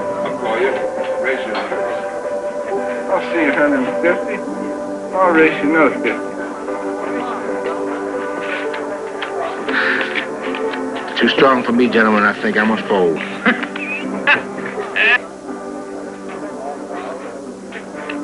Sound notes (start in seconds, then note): 8.1 shuffling noises; 13.4 poker player laughing